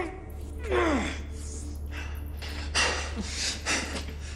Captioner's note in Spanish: Sonidos de esfuerzo